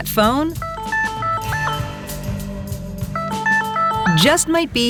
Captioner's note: phone ringing